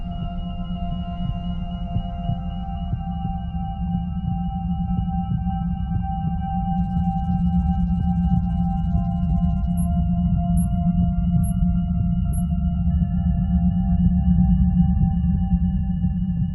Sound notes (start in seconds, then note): 1.5 heart beating